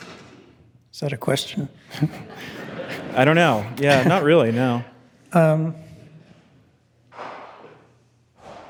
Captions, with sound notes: Is that a question? (panelists and attendees laughing) - I don't know. Yeah, not really. No.